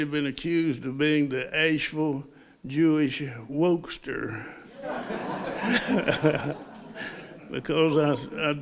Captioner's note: laughter